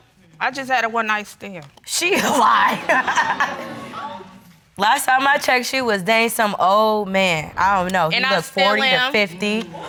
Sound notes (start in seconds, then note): 2.5 laughing